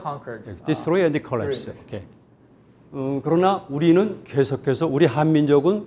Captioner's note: speaking in Korean